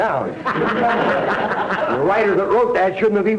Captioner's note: audience laughter